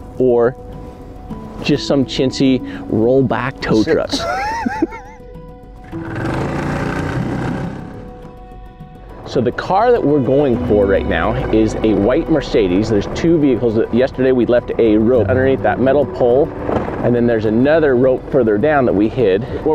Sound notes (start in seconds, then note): 3.8 laughing; 5.8 outboard motor rumbles